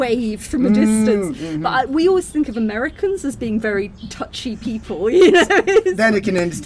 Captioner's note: laughing